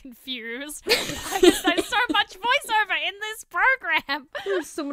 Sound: hosts laugh

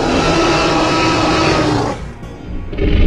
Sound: growling; roaring

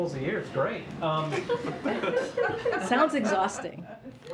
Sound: laughter; laughs

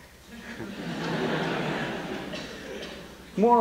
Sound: laughter

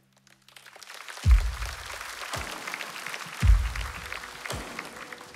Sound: applause

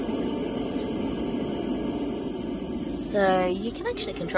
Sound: the loud hissing reduces a bit

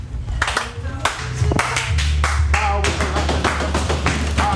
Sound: hands clapping

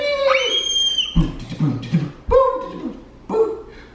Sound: screaming

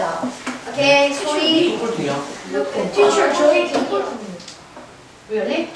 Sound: speaking foreign language

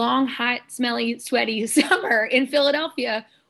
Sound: laughter

